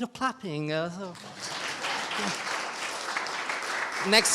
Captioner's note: audience applauding